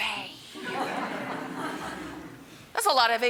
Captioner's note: audience laughing